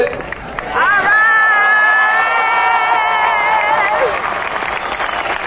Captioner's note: audience cheering and applauding